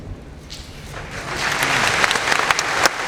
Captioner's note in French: applaudissements